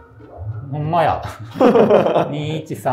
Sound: laughing

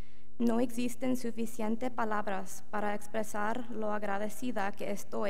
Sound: speaking in foreign language

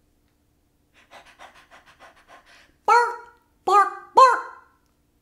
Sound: panting

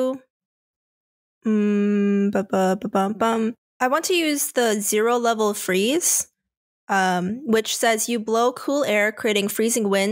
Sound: hums

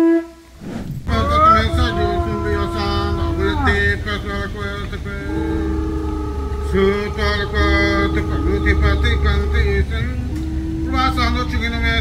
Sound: chanting and Animal Calls

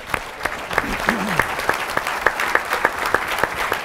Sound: audience applauding

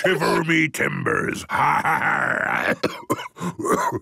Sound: menacing voice; growls; cough

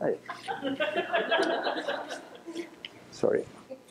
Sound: laughter

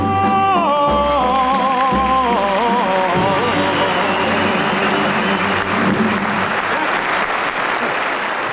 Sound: audience applauds

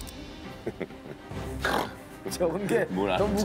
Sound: chuckling

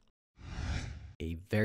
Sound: screen whooshes

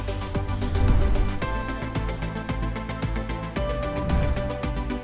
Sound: animation swooshing

